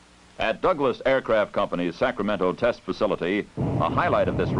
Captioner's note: sound of Engines Firing